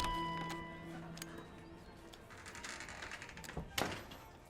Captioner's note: door bell dinging